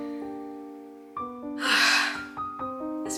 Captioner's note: exhale